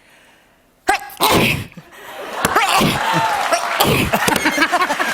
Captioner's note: sneezing; laughter and applause